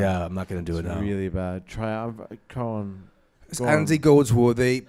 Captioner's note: In a British accent